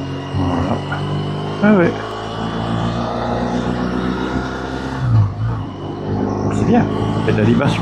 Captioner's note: engine